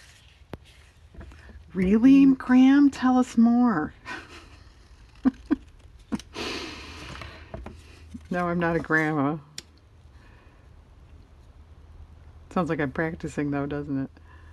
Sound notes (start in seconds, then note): 5.1 laughs